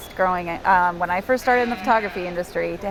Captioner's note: bleats